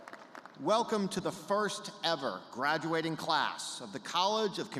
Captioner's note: cheers